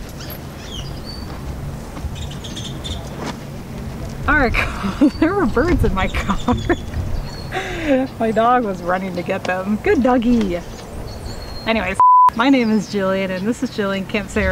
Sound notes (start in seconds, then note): 7.3 laughing; 11.9 beep